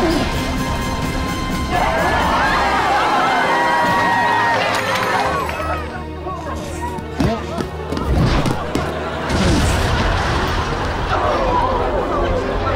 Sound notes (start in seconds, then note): 1.7 cheering